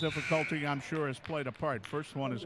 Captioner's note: referee whistling; buzzer sounding